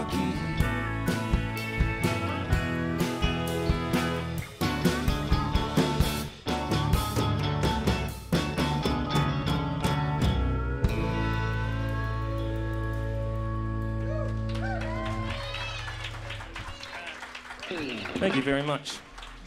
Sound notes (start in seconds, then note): 8.8 trailing note of steel guitar; 13.9 applause